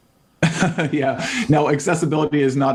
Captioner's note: laughing